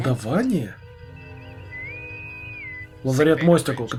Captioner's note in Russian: свистки интеркома